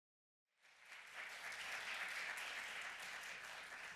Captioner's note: applause